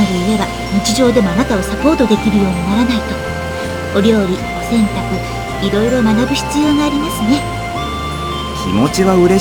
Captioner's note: rain